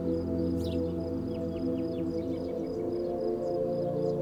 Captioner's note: soft wind, birds chirping